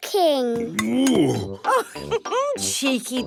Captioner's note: laughs